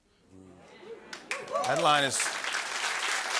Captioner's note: applause